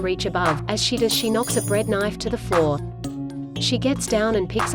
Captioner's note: tableware clanging